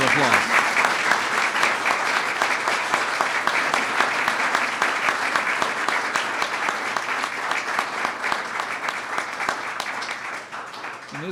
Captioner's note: applause